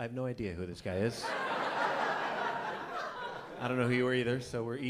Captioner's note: laughter